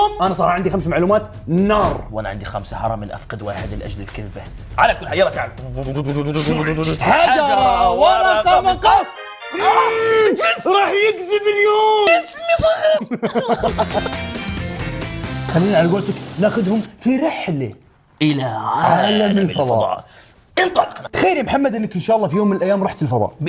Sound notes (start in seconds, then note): 12.5 laughs; 12.6 crying